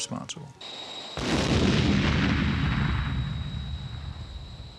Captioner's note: explosions booming